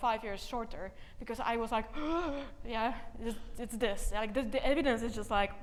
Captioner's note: gasps